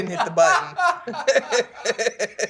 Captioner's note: laughter